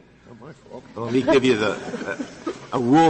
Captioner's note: laughter